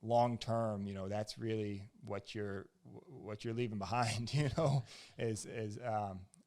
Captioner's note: laughs